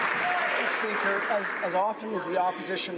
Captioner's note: some Applause